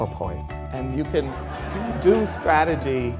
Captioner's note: crowd laughter